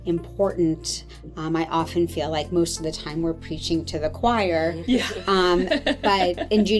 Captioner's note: laughter